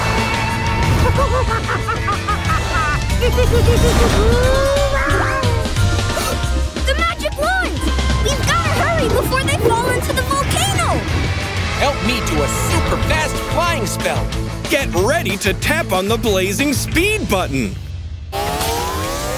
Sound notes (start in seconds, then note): 0.9 chuckles